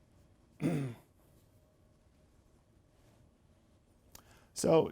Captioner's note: clears throat